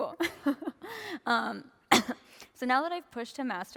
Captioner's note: laughter